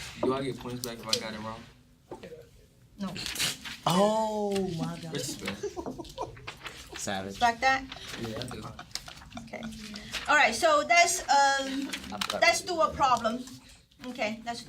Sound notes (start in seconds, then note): 4.5 students murmur